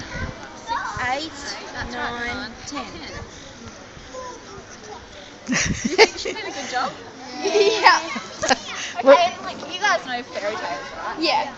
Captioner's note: laughter